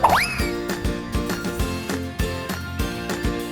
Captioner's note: boing sound